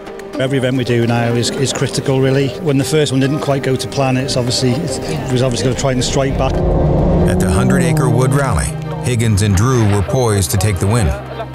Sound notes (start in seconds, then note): 6.4 engine zooming